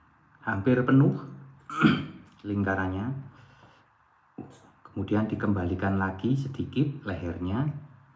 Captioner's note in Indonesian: berdehem